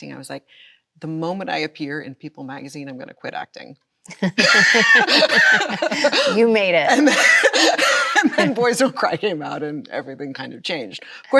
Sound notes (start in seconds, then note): 4.1 both laughing